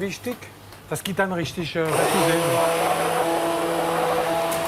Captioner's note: loud mixer whirring